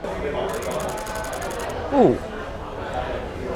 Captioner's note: shutter clicking